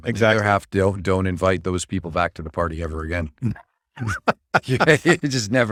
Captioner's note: laughs